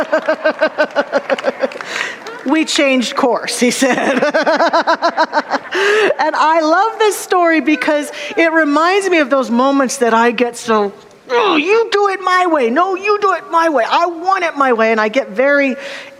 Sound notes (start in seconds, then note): 0.0 audience laughter; 3.8 audience laughter